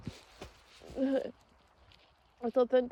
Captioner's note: groans